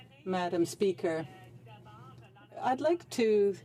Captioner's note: speaking French